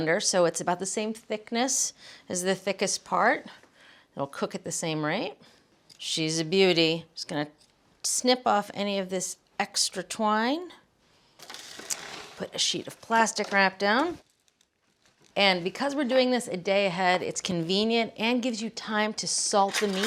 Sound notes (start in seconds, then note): 11.4 plastic crinkling; 19.7 spoons rattling